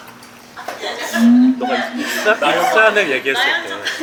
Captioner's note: chattering